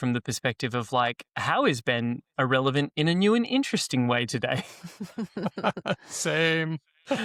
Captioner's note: laughter